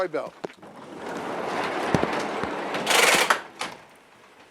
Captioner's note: garage door opening